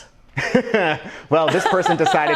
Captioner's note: laughs